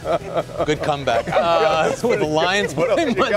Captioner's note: laughter